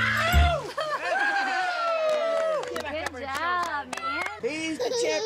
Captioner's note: clapping, cheering